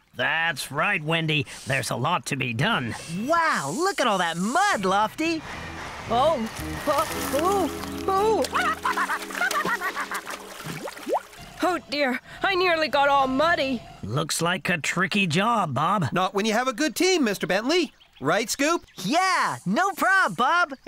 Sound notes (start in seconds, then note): 8.6 splash !; 9.6 quacking